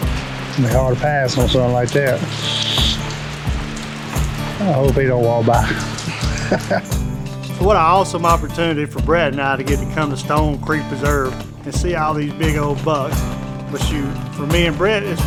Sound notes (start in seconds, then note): 5.6 laughing